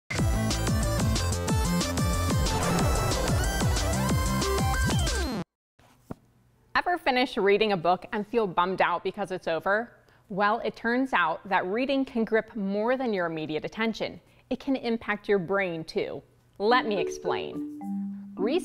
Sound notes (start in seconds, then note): 0.2 upbeat music; 2.2 rocket engine roaring